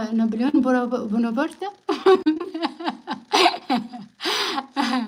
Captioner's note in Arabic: ضحك